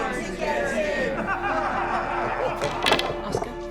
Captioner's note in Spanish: todos ríen